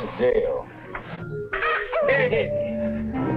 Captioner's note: people cheering and chattering; soft instrumental music